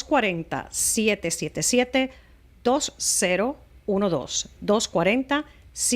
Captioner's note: Hablando ingl\s